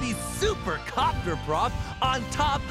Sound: none

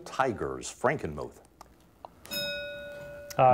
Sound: bell ringing

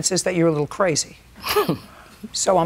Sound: chuckles

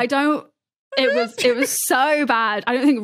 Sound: stifles giggle

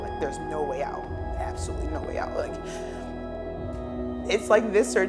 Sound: deep breath

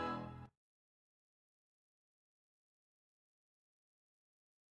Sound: silence

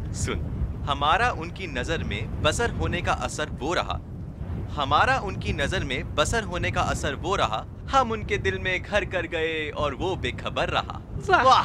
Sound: recites poetry

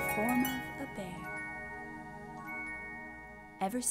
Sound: harp playing; chimes twinkling

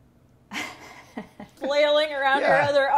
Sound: laughing

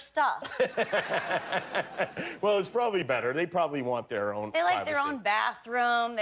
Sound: laughter

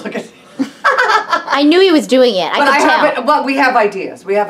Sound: laughs

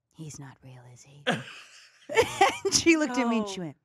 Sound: laughs

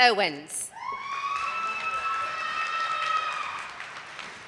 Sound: audience applauding

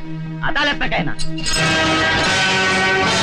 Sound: handcuffs Jiggle

